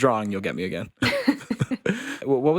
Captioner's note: podcasters chuckling